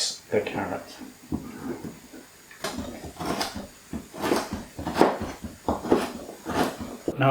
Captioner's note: carrot dicing sounds